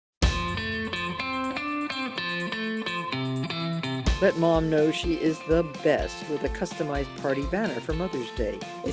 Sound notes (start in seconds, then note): 0.1 upbeat music; 4.3 voiceover